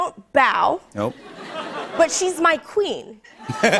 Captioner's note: laughter; laughter